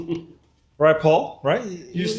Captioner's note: laughs